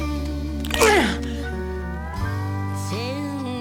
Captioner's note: loud crunch